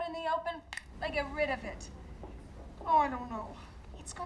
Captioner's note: fingers snap